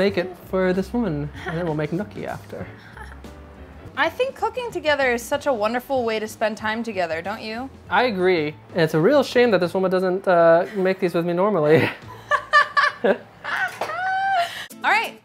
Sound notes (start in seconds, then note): 2.8 laughing; 10.7 laughing